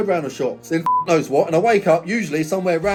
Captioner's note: beep